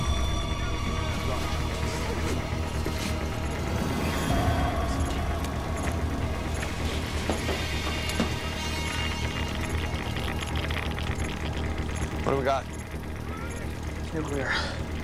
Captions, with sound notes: [Regular beeping] [Geiger counter clicks rapidly] What do we got? It's nuclear.